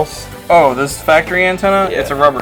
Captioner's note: voiceover